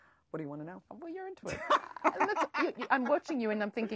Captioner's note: laughs